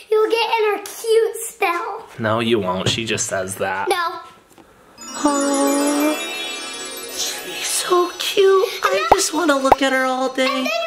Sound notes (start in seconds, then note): 5.0 magical trill